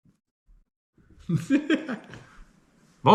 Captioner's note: laughs